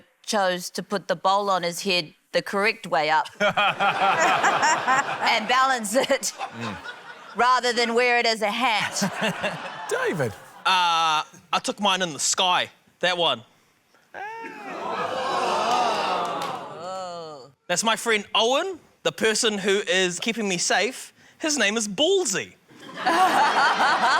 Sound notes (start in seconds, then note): 3.3 laughter; 9.0 laughter; 14.1 audience exclaims; 22.8 laughter